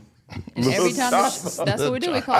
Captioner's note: laughs